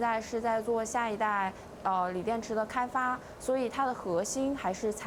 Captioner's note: speaking chinese